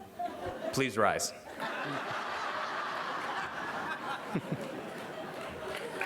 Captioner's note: laughter